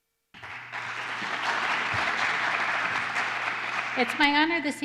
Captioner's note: applause